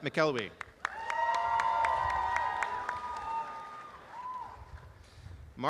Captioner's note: applause and cheering